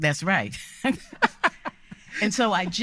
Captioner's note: all laughing